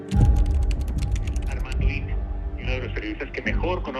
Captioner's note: on phone